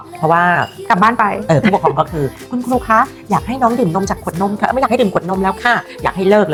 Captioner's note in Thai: เสียงหัวเราะ